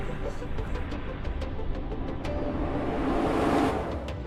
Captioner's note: portal whooshing